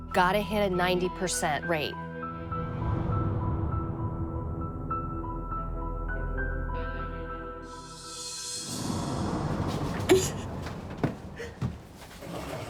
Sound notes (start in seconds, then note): 2.2 somber music playing; 10.0 sobbing